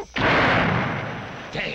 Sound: gunshot

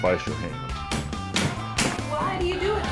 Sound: hammering

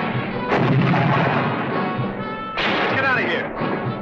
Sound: explosion booming

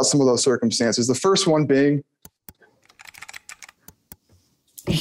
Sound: mouse and computer key clicks

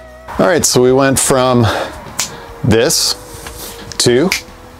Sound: fingers snapping

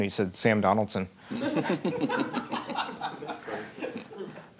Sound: laughing

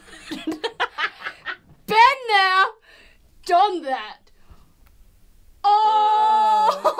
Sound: both laugh

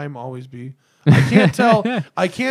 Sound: laughter

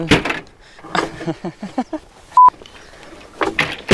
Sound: laughs

